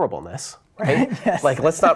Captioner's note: laughing